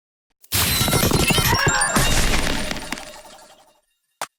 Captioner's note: Variety of MC Askew SFX